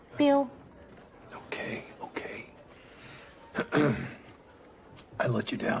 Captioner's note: clears throat